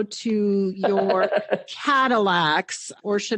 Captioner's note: laughing